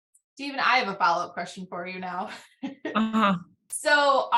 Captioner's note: laughs